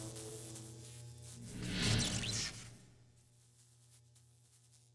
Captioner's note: electricity Crackling